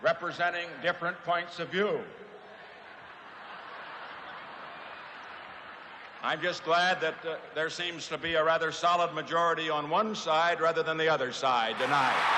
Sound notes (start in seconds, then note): 2.9 laughter; 11.6 cheering erupts